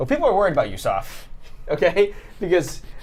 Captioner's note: Saf laughs; laughs